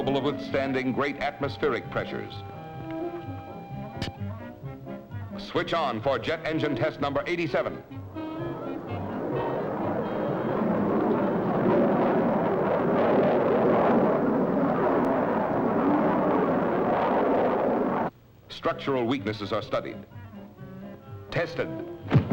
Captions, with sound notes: of expanding great atmospheric pressures. (playful music) Switch on for jet engine test number 87. (playful music) (engine whirring) Structural weaknesses are studied, tested.